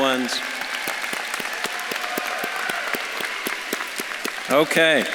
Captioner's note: audience claps and cheers